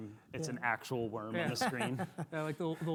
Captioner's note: laughs